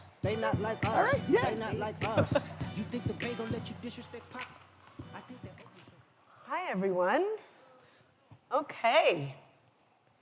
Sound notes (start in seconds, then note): 0.9 laughs